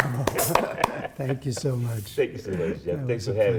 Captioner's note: applause